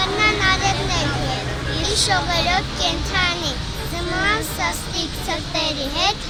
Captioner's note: children cite a poem in Armenian